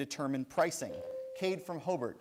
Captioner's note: bell rings